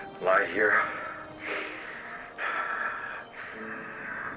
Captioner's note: labored breathing